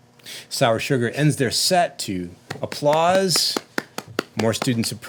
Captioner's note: applauding